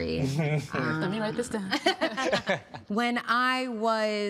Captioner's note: laughing